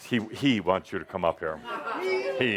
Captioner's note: audience applause